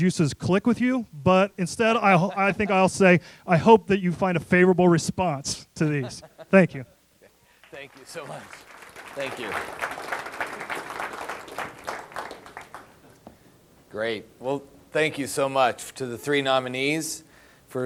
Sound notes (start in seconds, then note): 7.6 audience applause